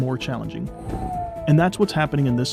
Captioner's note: aircraft noise